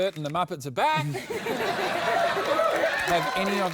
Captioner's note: laughter